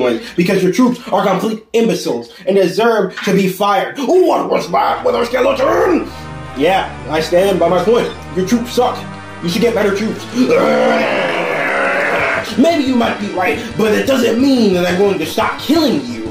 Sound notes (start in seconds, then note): 10.4 vicious growl